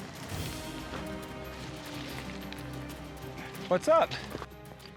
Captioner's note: footsteps